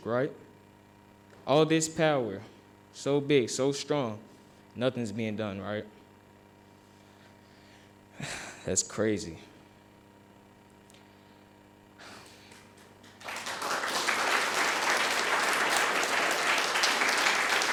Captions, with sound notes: Right? All of this power. So big, so strong nothing's being done, right. It's crazy. (audience applauding)